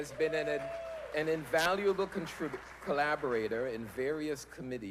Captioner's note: applause